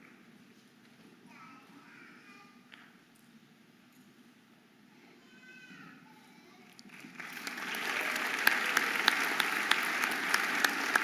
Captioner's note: audience applauding and cheering